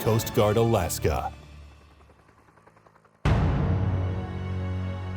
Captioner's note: engine whirring; dramatic music